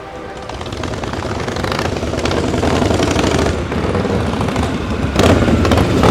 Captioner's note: motorcycle engines running